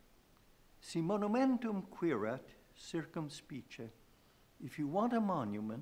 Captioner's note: speaking in foreign language